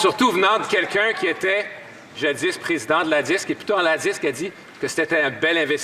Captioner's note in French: voix de l'interprète